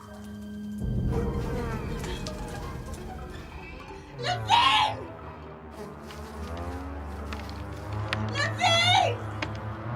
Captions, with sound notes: [flies buzzing] Levine! Levine!